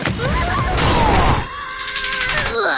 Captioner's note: screaming followed by crashing; more screaming